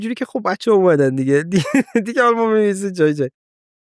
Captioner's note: laughs